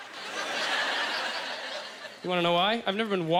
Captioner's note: audience laughter